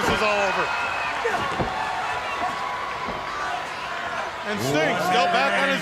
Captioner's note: crowd chatter